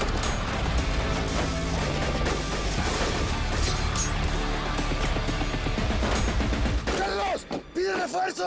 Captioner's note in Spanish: Disparos